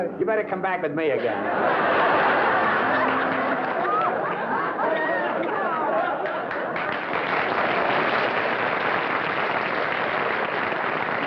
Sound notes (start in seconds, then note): 0.0 singing; 1.4 laughter; 7.6 applause